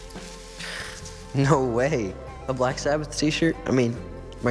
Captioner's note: gasps